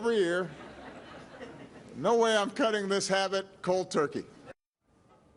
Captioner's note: laughter; laughter